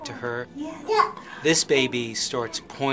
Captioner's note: baby cooing